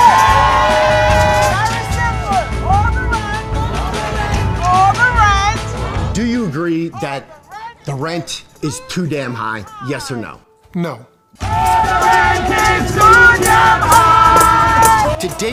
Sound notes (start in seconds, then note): 3.3 all chanting; 5.7 all chanting; 11.6 all singing